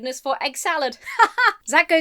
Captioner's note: laughs robotically